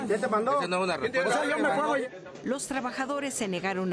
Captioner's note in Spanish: bullicio